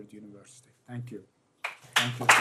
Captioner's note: applause